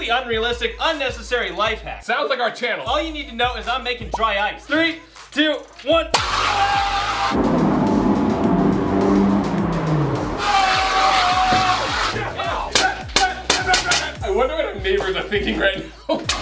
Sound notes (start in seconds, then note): 6.3 screaming; 6.3 spraying